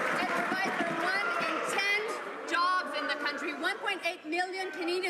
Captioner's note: some Applause